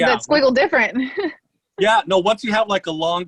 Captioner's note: giggles